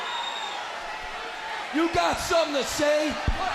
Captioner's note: crowd chatter